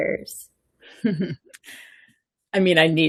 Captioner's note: laughing